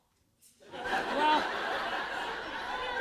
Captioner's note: laughter